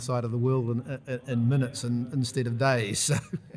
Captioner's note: laughs